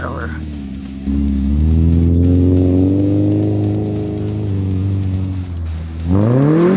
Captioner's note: engine revving